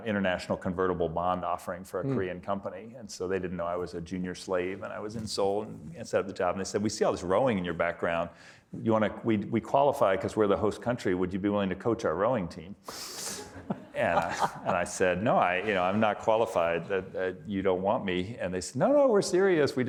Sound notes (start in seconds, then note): 13.4 audience laughing